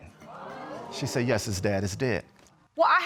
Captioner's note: audience exclaiming